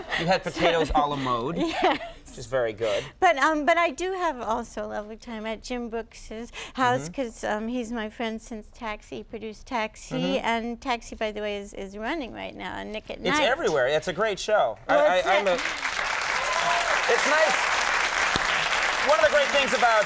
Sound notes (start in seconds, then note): 0.0 laughs; 15.2 crowd clapping